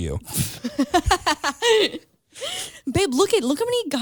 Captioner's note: laughs